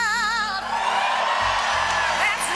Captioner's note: applause